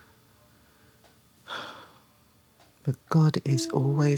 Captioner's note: Evelyn sighing